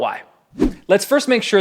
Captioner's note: air whooshes